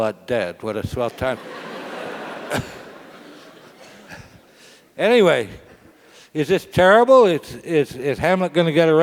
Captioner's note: laugh